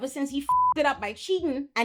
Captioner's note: beep